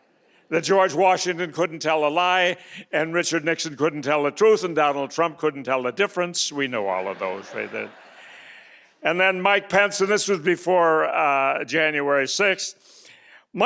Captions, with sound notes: that George Washington couldn't tell a lie and Richard Nixon couldn't tell the truth and Donald Trump couldn't tell the difference, we know all of those, right? (audience laughing) And then Mike Pence, and this was before January 6th,